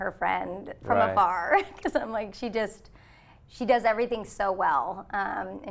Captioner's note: chuckles